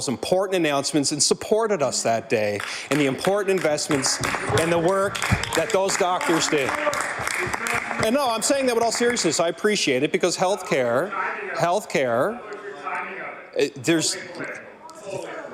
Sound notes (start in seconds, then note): 10.4 some Applause